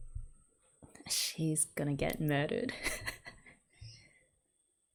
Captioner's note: laughs